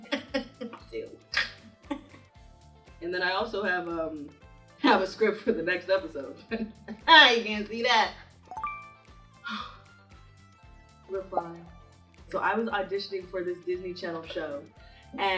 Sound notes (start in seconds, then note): 1.3 Dara laughing; 6.7 laughing; 8.4 notification chiming